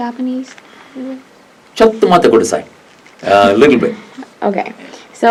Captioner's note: speaks in Japanese